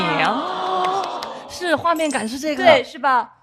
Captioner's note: everyone chimes in